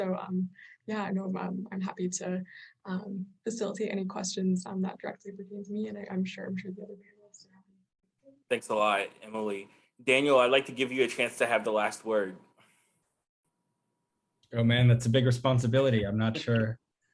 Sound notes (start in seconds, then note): 7.6 speaking softly